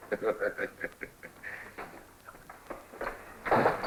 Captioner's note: chuckles